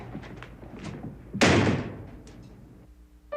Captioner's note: door slams loudly